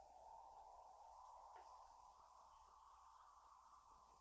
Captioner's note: wind whooshing